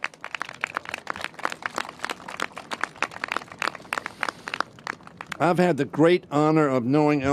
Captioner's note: applause